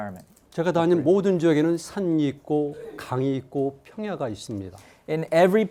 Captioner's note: speaking in Korean